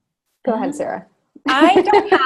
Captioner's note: laughs